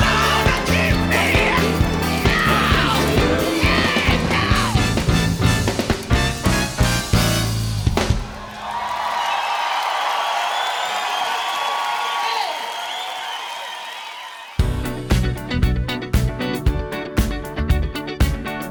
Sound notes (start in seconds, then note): 9.4 applause